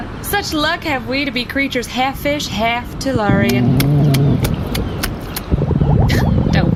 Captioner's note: growling and slapping against walk